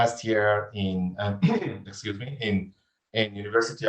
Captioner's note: coughs